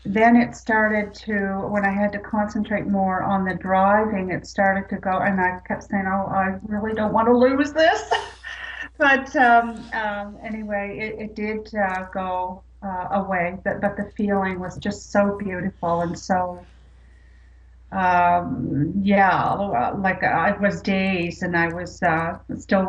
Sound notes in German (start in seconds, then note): 7.8 lacht